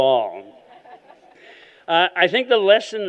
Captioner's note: laughter